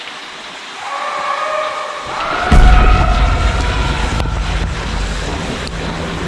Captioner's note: screams